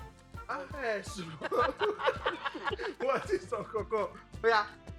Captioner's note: laughs